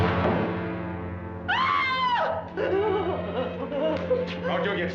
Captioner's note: sobbing